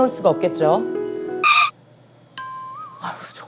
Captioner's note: stutter